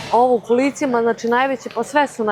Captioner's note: none